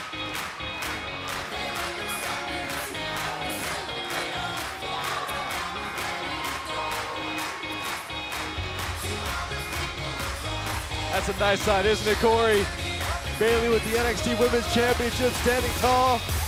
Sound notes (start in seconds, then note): 2.0 crowd cheering